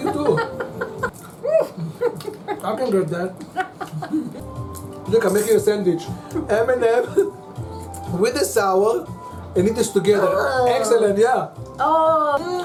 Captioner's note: laughing